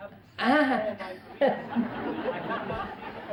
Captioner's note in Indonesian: Tertawa